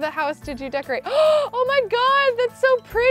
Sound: gasps

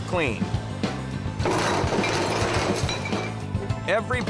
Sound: glasses clinking

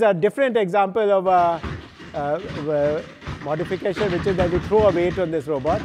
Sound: feet clatter

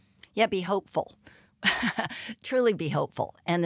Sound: laugh

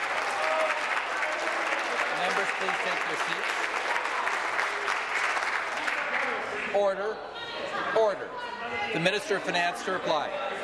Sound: applause

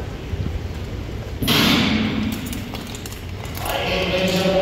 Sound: starting gun fires

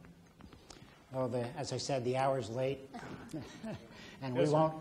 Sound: laughs

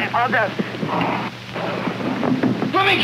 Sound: rumbling

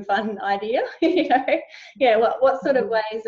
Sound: laughing

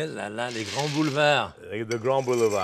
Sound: Jacques speaking French

